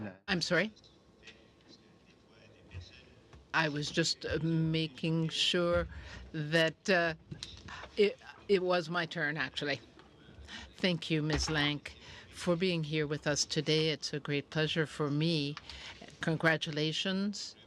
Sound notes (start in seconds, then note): 3.2 speaking French